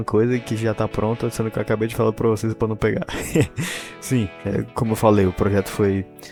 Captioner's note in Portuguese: risadas